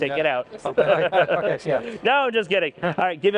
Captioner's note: laughter